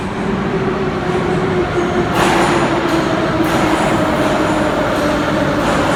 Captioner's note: arrival of train at the station